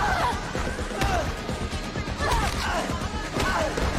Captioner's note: groaning